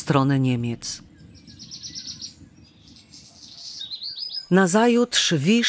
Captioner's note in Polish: śpiew patków, brzęczenie pszczół